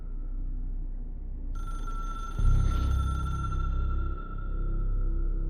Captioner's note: phone rings